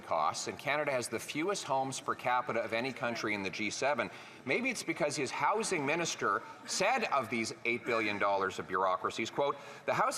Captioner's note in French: voix de l'interprète